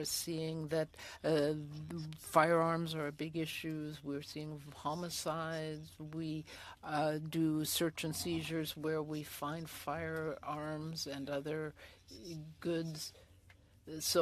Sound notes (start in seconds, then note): 3.1 speaking French